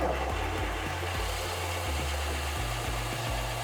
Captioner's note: drill humming